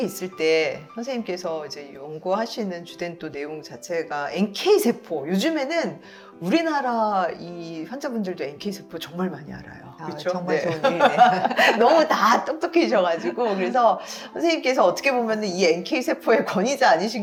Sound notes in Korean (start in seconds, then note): 10.6 웃음